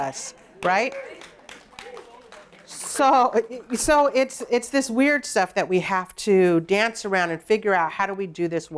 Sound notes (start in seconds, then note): 0.5 applause